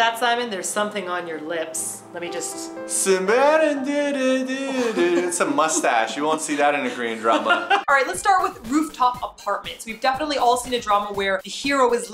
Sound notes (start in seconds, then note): 2.6 humming Korean song